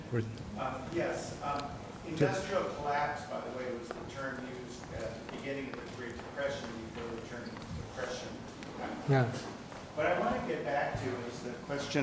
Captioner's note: someone speaking off microphone